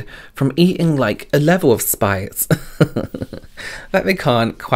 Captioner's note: giggles